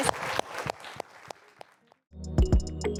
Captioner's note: applause